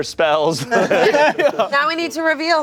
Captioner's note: everyone laughing